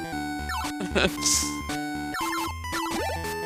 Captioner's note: laughs